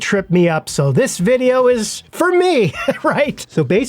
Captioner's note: laughs